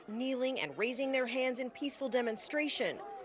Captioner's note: crowd chanting